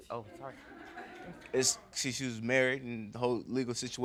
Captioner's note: stammers